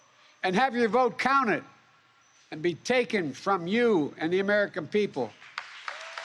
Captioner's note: applause